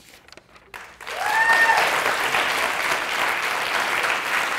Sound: audience applauding

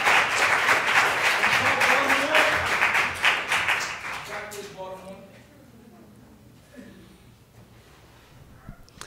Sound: applause

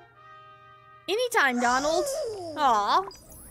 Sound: Donald Cheers

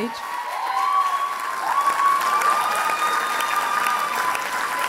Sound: applause and cheers

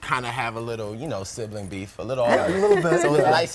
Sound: laughter

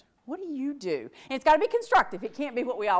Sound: none

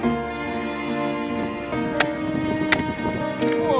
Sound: tool hitting ice

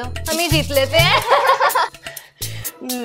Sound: laughing

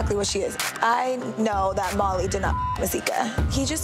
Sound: beep

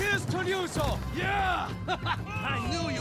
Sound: laughs

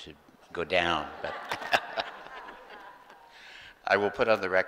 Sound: group laughing

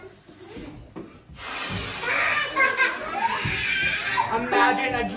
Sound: sips

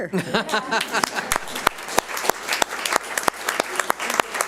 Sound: audience applauds

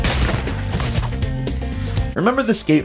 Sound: skateboard crashes

